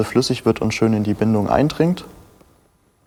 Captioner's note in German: none